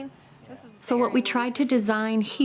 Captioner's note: none